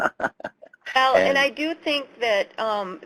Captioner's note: laughing